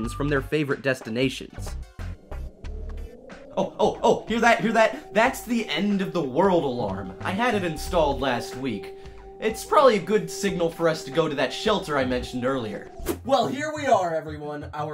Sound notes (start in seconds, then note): 2.0 air raid alarm